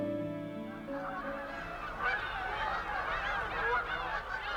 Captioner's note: honking, squawking